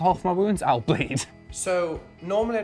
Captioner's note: laughs